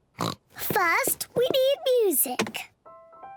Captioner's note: oinks; gentle piano music playing